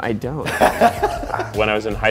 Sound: laughing

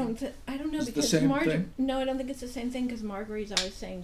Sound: voiceover

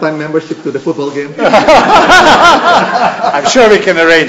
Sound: laughter

